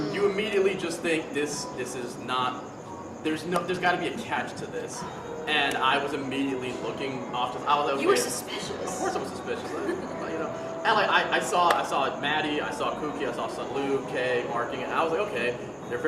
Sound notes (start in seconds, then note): 10.1 member giggles